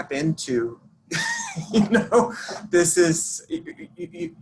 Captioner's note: laughs